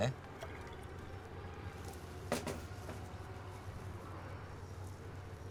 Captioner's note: liquid trickling